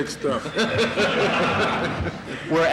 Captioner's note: laughter in courtroom